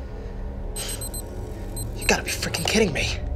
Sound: camera beeping

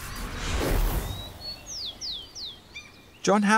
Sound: electronic buzzing; birds chirping

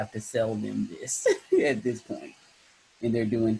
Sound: chuckles

